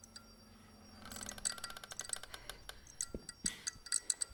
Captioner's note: floor creaking; footsteps thudding rapidly